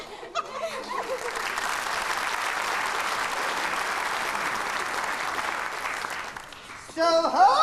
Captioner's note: applause